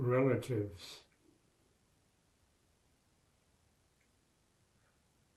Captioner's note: pauses 6 seconds